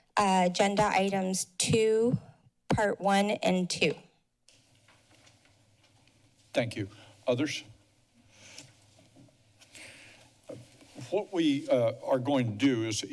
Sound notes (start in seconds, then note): 9.6 breaths